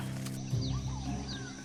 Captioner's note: strains